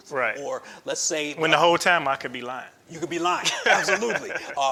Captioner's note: laughs